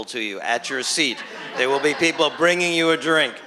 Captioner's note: chuckles; laughter